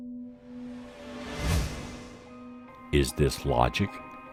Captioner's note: craft whooshing